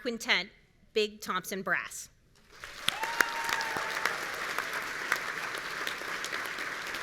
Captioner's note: audience cheering